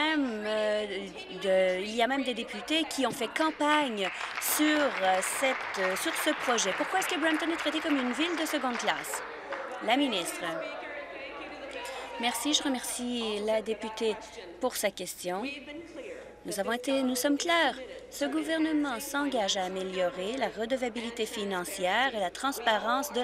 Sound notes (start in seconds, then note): 8.1 applause